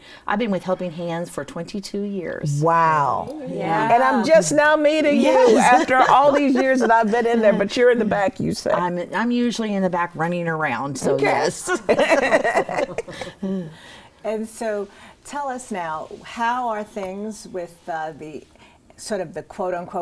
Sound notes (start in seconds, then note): 11.6 laughing